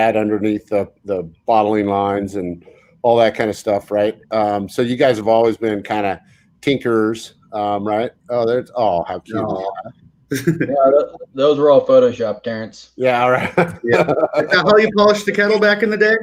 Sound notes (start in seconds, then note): 13.2 laughs